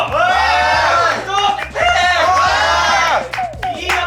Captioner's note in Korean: 삑사리